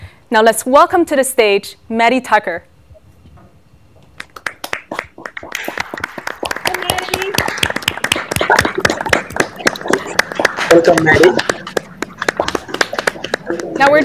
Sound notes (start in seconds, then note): 3.9 applause